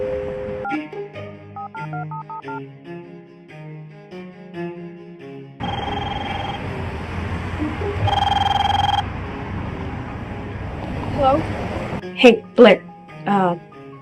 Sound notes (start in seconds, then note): 1.6 phone beeping; 5.8 phone ringing